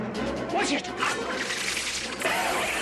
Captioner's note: tense music; whirr; buzz